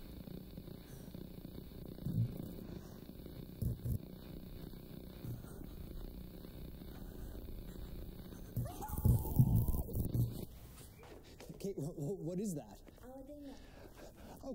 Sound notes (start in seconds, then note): 8.6 muffled screams